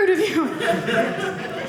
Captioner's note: audience laughing